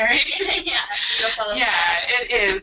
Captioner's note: laughter